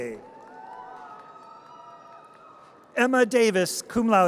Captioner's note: audience cheers